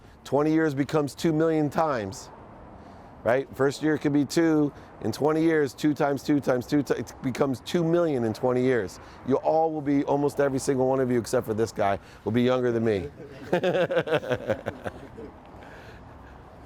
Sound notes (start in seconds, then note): 13.0 laughing